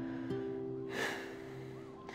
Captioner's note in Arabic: يزفر